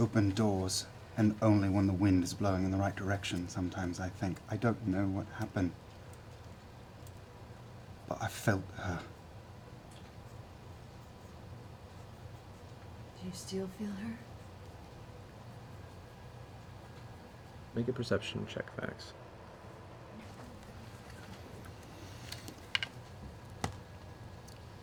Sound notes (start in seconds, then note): none